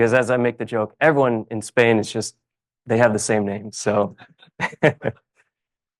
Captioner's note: laughs